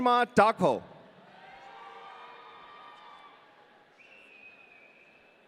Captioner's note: audience cheering